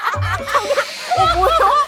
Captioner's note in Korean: 구석에서 들려오는 낯선 웃음소리